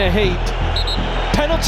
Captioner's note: referee blows whistle